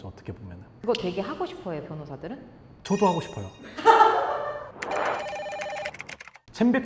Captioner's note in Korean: 웃음